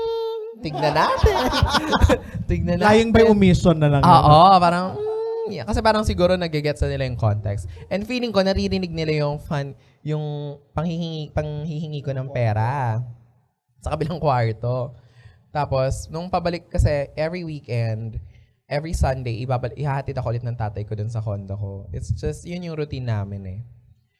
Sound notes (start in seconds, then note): 2.3 laughter